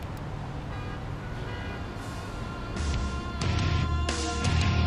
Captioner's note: cars hooting; upbeat music